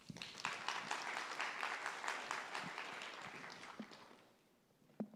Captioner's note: applause